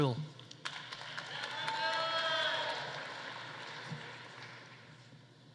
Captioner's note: audience applauding